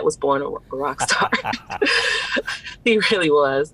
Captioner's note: chuckles